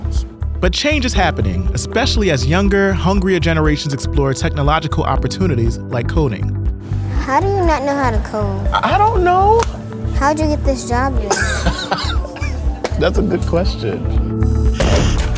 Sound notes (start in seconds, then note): 11.2 laughs